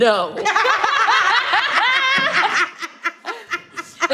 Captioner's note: all laughing